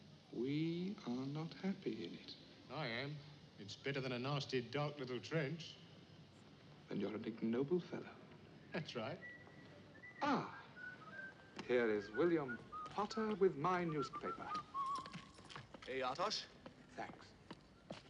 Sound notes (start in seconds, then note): 9.0 whistling